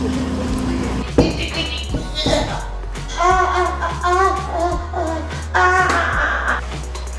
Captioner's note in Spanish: Conteniendo la risa